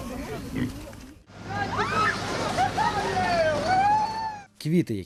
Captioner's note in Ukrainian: Вигуки людей